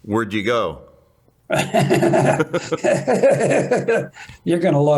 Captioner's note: laughter